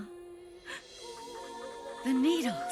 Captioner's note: gasps